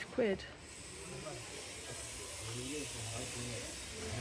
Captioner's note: loud buzz saw